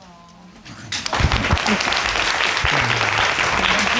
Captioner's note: audience clapping